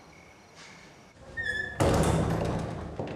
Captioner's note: door shuts